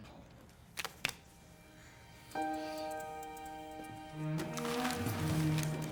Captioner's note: cards slam; soft tense music; cards slam; bills rustle